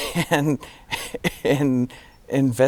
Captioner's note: giggling